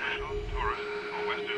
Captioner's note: radio interference